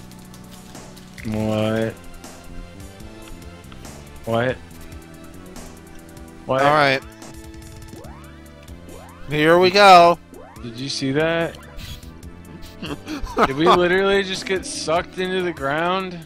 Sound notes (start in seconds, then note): 12.4 laughs